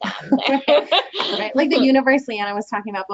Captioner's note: chuckles